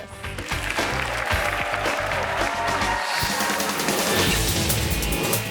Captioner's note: audience cheers and applauds; upbeat music